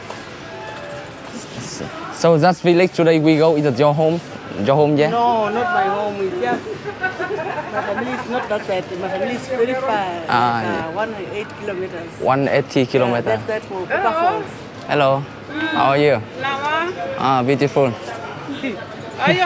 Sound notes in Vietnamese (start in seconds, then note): 6.5 Tiếng cười